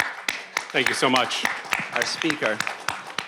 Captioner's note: all clapping